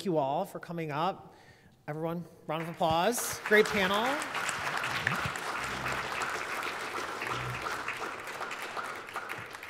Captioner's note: applause